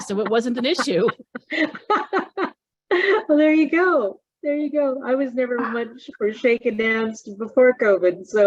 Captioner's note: is laughing